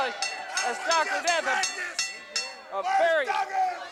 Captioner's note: Dr. Death shouting